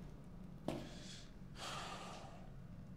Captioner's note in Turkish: İç çekti